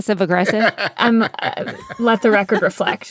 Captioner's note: laughter